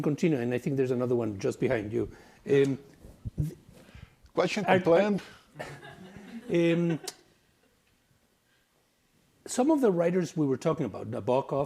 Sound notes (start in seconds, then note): 5.5 students chuckle